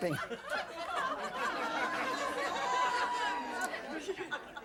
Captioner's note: audience laughing